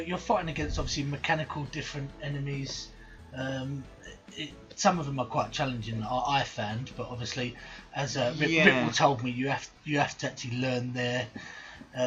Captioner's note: both Laugh